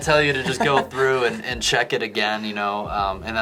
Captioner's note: laughing